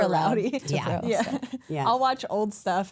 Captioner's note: laughs